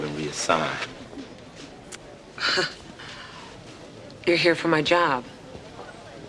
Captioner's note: scoffs